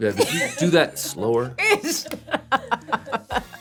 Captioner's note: laughs